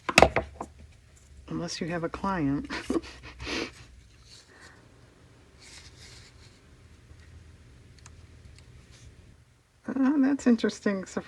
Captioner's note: laughs